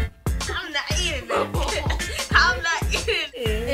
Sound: upbeat music; laughs

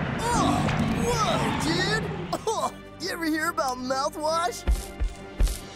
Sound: coughs

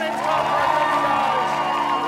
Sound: audience applauds

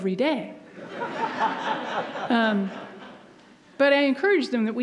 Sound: audience laughs

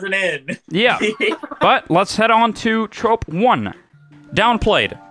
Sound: laughter

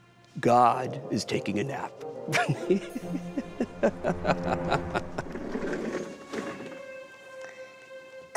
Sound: sarcastic laughter

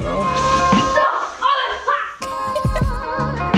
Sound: giggles

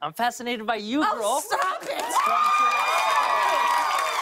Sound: cheers and applause

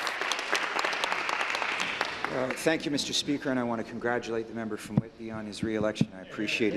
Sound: applause

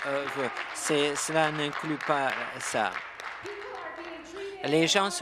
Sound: applause

